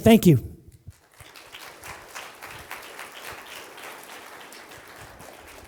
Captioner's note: applause